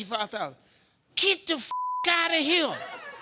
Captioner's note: beep